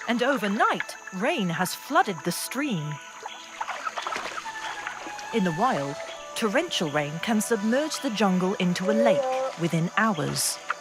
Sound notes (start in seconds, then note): 2.9 water rustling